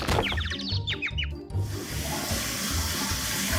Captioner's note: birds chirping; air hissing